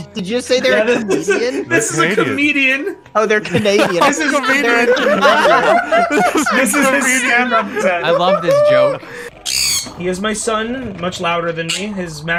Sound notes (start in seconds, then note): 1.4 laughing; 3.4 overlap of laughter